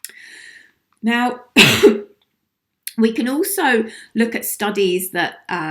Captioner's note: coughs